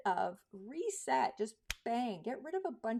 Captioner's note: fingers snapping